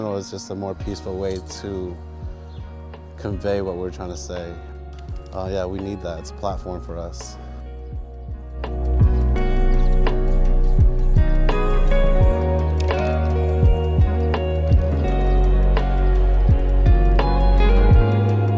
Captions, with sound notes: or riot, but, like, street art and visual arts, in general, is just a more peaceful way to convey what we're trying to say. Yeah, we need that. It's a platform for us. (spray paint hissing) (hopeful music continues)